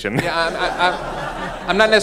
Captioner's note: laughing